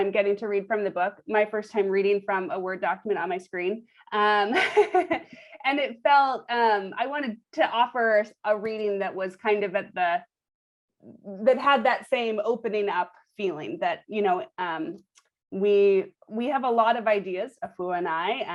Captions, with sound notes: getting to read from the book, my first time reading from a Word document on my screen. [LAUGHS] And it felt-- I wanted to offer a reading that was kind of at the-- had that same opening-up feeling. We have a lot of ideas, Afua and I,